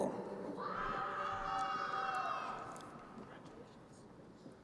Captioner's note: crowd cheering